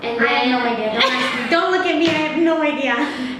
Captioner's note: laughing